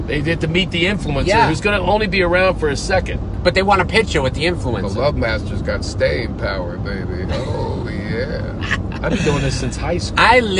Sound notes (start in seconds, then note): 8.4 laughs